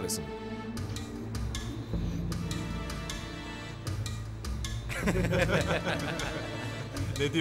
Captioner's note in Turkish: Gülüyorlar